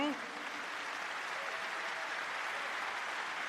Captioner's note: applause